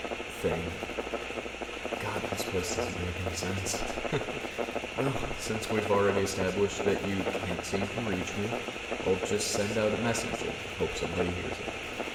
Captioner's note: sounds of static and distortion over the audio